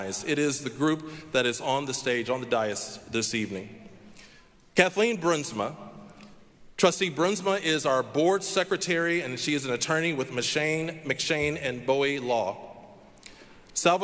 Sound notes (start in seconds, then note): none